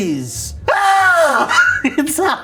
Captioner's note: screams; laughs